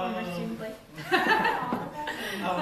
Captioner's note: laughter